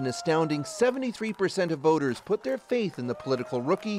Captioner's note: applause